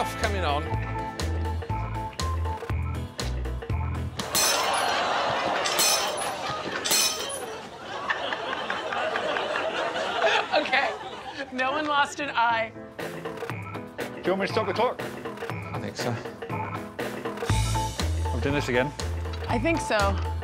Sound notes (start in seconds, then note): 0.0 upbeat music; 4.2 audience laughing; 4.2 balls breaking plate; 9.9 Desiree laughing; 13.3 upbeat music; 17.2 upbeat music